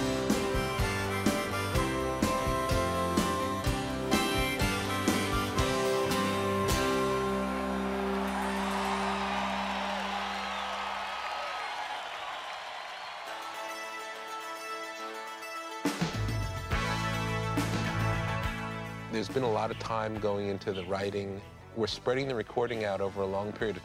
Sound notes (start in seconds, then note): 0.0 harmonica plays; 8.3 audience cheering